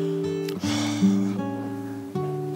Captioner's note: sigh